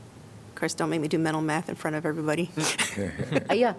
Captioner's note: laughter